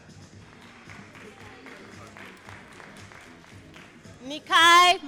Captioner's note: all applauding